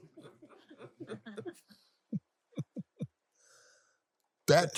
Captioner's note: laughs